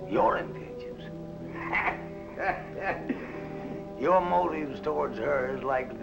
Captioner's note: chuckles